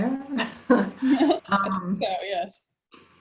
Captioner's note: laughing